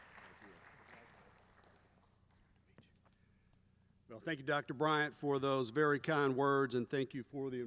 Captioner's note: applause